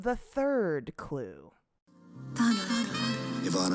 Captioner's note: soundbite of archived recording